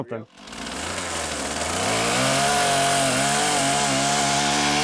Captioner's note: saw running